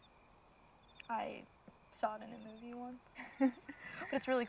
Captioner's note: sighs; both chuckling